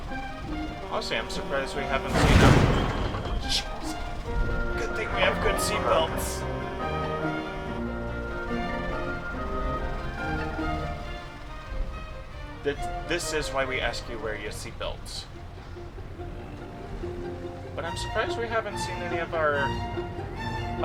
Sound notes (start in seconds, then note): 0.0 honk honk; 0.5 crash; 0.6 long honk; 10.2 long honk